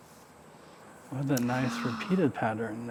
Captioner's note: gasping